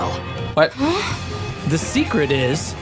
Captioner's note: Sarge gasps